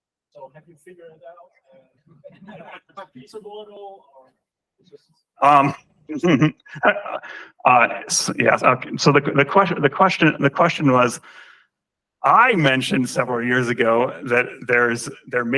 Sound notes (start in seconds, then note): 2.1 laughter; 6.1 laughs